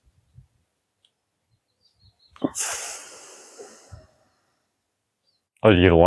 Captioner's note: exhales